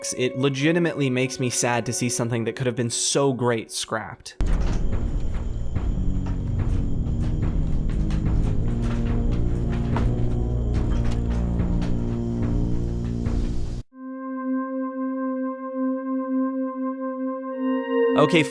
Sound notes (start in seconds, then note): 4.4 metallic footsteps; 13.6 eerie music